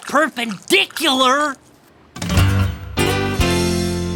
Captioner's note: none